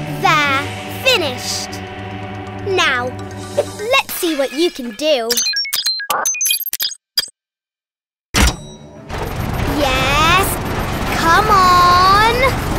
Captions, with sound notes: - There, finished. Now let's see what you can do. (electronic beeping) Yes, come on.